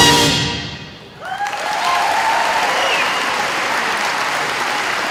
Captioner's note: audience applauding